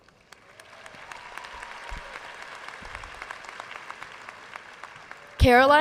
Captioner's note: audience cheering and applauding